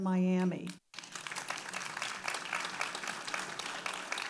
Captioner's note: audience applauding